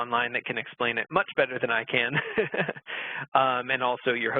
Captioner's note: laughing